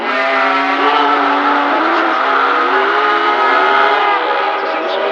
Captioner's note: male cry of pain and fear